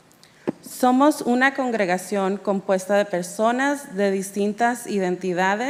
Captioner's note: speaking in Spanish